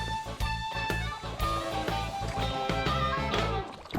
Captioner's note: upbeat twangy music; water bubbling